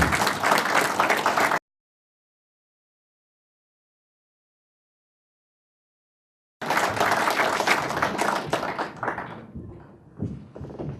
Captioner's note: applause; silence